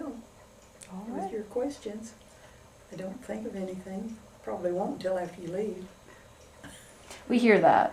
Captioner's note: laughs